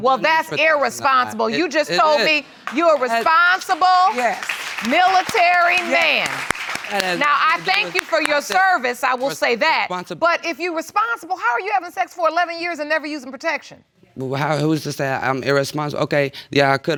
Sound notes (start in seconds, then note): 2.2 audience applauding